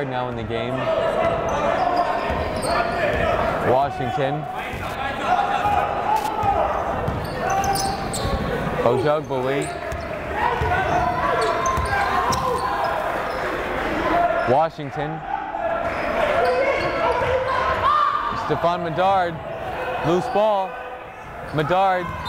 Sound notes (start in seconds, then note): 5.6 yelling; 11.5 yelling; 17.0 yelling